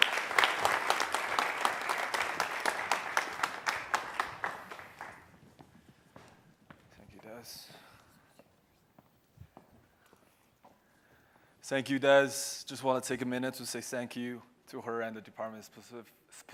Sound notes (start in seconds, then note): 4.4 applause